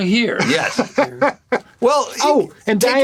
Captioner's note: Gilligan laughing